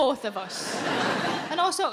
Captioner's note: audience laughs